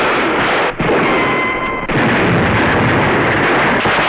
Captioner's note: boom; gunfire